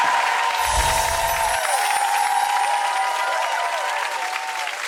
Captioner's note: audience applauding